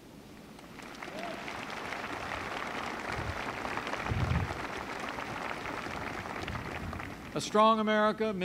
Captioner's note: applause